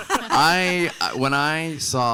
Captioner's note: panelists laughing